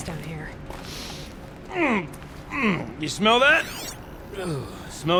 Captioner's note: sniffs